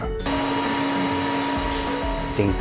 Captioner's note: machine whirring